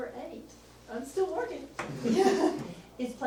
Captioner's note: laughs